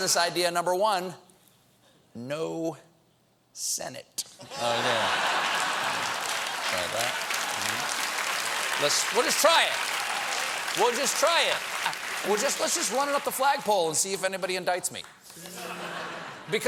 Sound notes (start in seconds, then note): 4.4 laughter; 5.0 applause